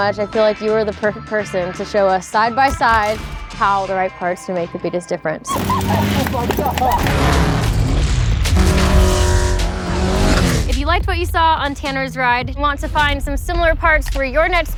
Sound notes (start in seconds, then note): 5.5 cheers & claps; 7.6 engine buzzes & roars